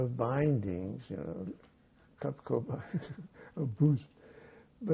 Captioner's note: laughing